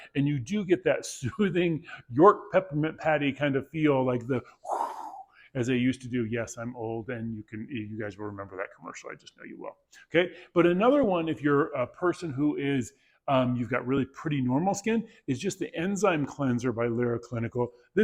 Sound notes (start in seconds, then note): 4.6 blowing air sound